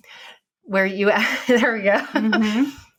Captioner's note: laughing